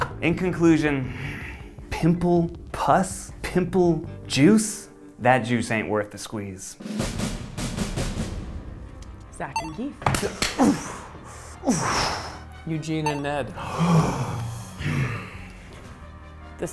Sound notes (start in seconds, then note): 7.1 suspenseful music; 10.6 cheer; 13.6 all gasp